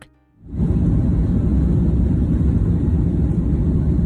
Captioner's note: engine whirring